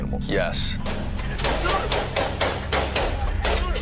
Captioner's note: gunfire bursts